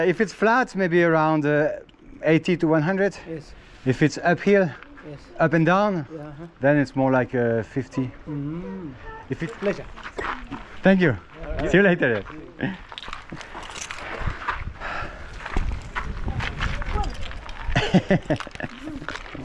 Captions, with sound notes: if it's flat, maybe around 80 to 100. - Yes. If it's uphill, up and down, then it's more like a 50. -Mm-hmm, it's been a pleasure. -Thank you. See you later. [kids chatter] [laughs]